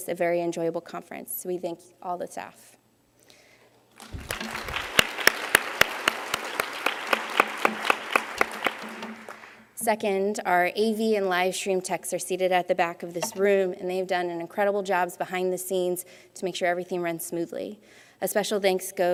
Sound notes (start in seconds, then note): 2.2 applause